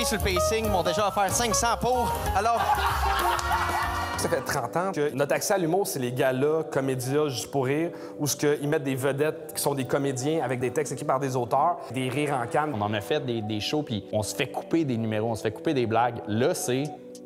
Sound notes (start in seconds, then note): 2.5 laughs